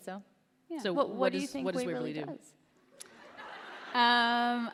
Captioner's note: laughter